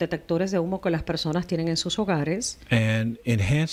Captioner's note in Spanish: Hablando ingl\s